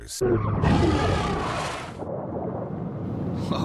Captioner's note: shark roaring